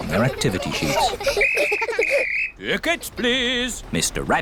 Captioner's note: blows whistle